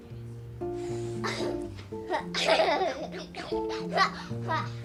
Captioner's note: laughs